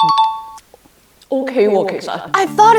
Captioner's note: Cantonese